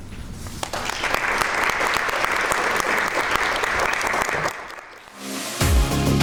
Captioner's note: crowd clapping